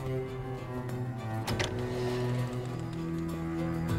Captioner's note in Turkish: Kapı açılma sesleri; Kapı gıcırdama sesleri